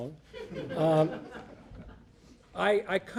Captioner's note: audience laughing